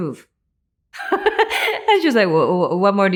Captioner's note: Anne laughing